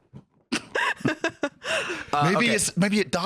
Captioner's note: laughs